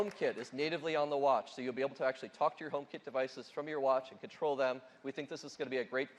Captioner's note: applause